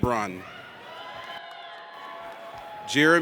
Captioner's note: audience cheers